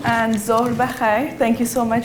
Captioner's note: speaking in foreign language